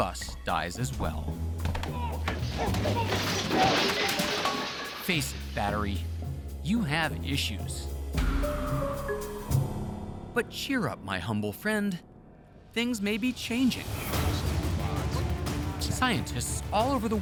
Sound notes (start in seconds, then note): 2.0 loud crash, shouting